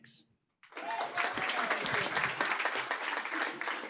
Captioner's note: applause